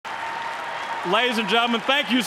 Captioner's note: applause